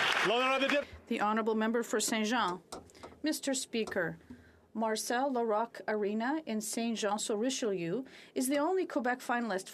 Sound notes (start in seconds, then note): 1.7 applause